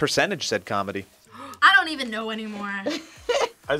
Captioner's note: gasps